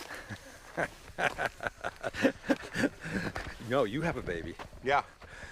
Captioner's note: laughs